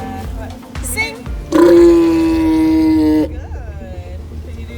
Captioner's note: walrus vocalises